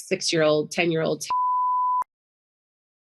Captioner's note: beeping